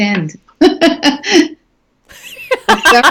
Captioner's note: laughing